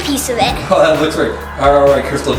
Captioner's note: chuckles